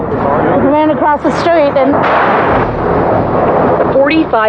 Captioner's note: explplososion n